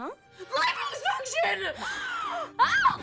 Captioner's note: Elle gasps